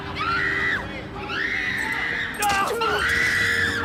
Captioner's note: woman screams